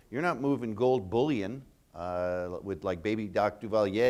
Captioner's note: none